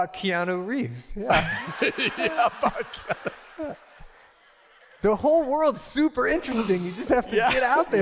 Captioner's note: laughter